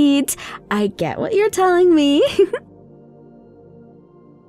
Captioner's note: giggles